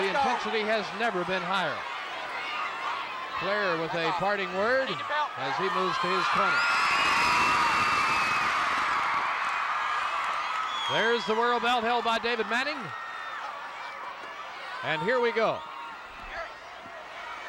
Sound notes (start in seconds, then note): 5.7 audience cheering